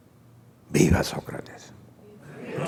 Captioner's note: laughter